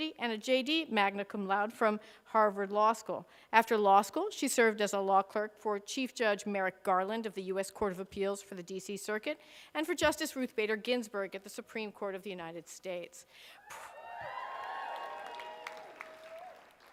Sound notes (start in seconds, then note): 13.6 cheers